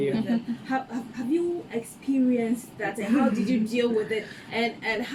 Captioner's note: laughter off screen; laughs